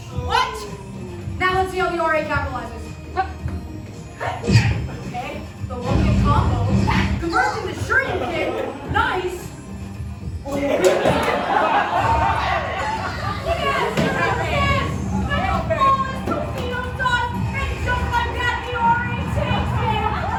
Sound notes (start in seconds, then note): 3.2 punch SFX